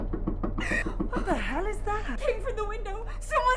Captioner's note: knocking on window; Tina gasps